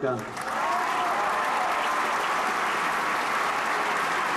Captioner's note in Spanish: Aplausos